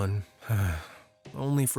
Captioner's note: sighs